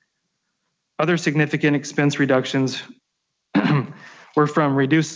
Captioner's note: clears throat